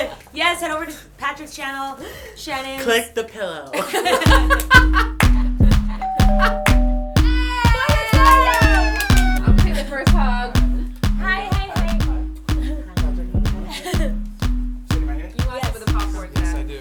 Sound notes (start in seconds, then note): 3.7 laughter; 6.0 doorbell rings; 7.3 cheering